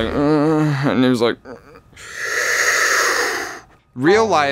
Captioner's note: breathes deeply